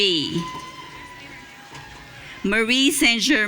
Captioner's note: audience cheering